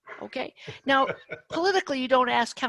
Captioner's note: laughs